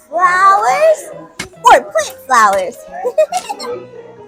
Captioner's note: laughs